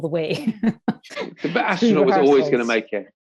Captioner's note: laughs